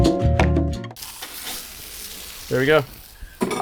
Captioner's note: sizzling